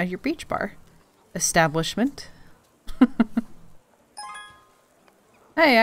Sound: laughs

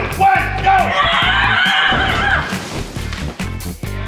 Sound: screaming

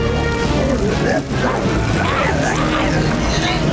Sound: groaning

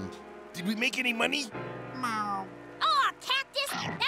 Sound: meowing

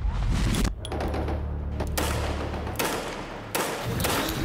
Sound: guns banging

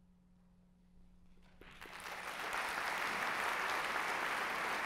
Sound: applause

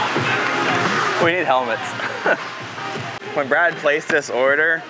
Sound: laughs

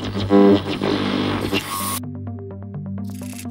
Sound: radio static scrunching; mysterious electronic music

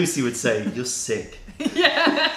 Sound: laughter

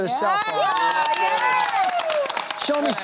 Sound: cheering

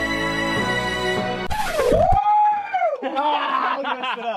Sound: record scratching

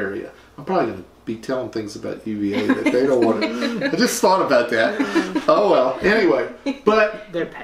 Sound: laughter

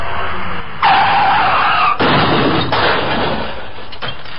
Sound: car crashing

